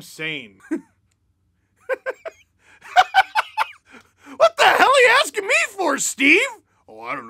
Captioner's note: laughter